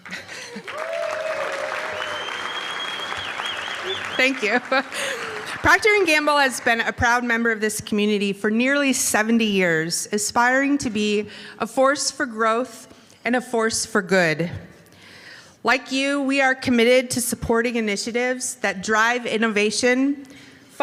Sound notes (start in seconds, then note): 3.2 applause